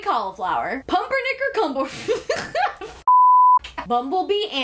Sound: beep

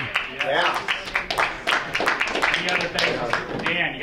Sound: applause

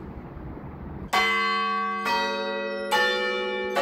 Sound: bells ringing

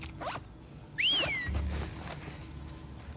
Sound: whistle!!

